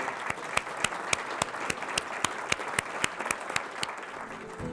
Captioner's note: audience applauds